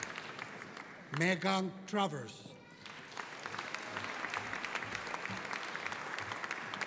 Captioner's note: audience applauding